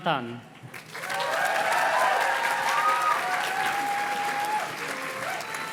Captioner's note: audience cheers and claps